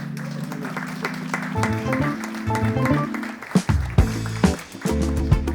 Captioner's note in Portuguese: Applause